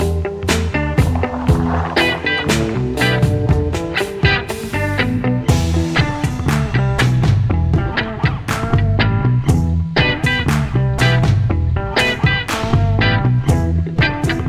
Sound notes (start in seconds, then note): 0.8 gravel crunching